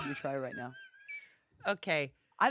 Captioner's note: laughs